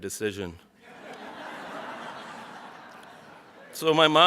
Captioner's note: audience laughs